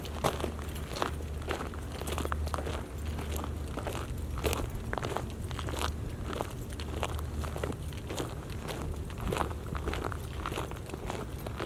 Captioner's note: footsteps on shell